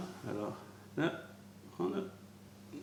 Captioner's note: french